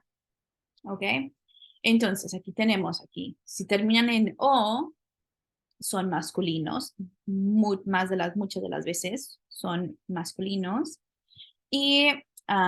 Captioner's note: spanish; speaking spanish